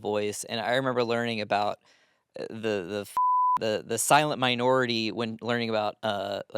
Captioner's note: beep